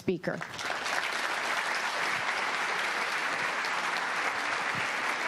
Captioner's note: audience applauding